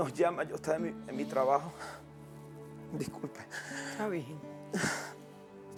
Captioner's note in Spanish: Sollozos